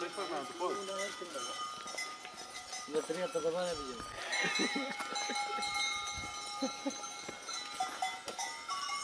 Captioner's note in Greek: γέλια